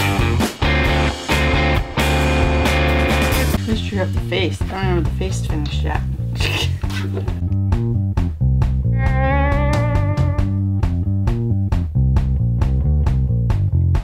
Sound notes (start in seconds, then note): 6.3 laugh; 8.6 fast music